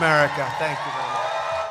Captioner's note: applause